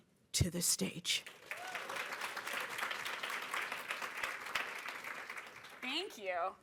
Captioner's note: cheering and applause